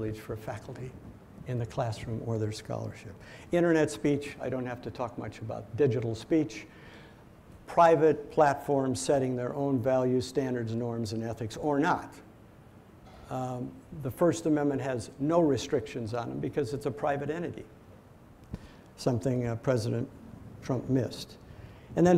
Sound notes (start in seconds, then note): none